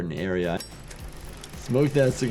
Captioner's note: lighter clinks